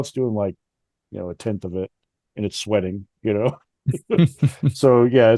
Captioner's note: laughs